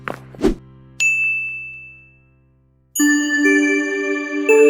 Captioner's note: bright chiming